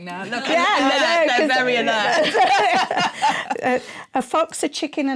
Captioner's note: laughter